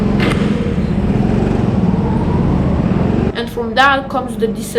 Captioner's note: bump sound; go-kart engine noise intensifies